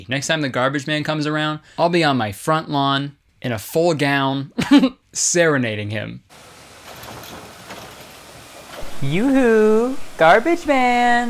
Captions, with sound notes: Next time the garbage man comes around. I'll be on my front lawn, in a full gown, (chuckles) serenading him. Youhu! Garbage man.